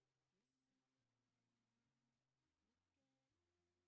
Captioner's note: none